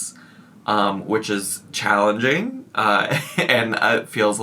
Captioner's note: giggles